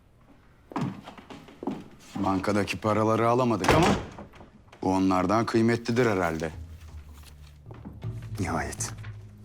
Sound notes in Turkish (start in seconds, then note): 0.6 Ayak sesi